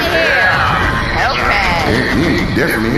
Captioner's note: ongoing sex-gun fire